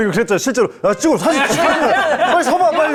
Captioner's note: excited